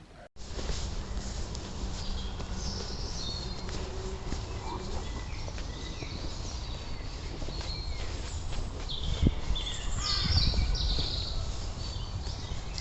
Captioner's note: nature sounds